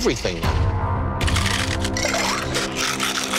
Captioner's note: ice shaking